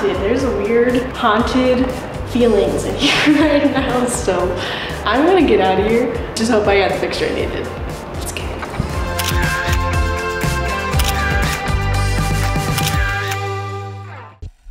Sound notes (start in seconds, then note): 3.0 laughs; 8.4 whispers; 9.6 upbeat music; 10.9 camera shutter